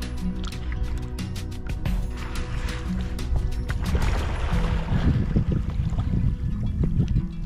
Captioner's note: sound of porpoise surfacing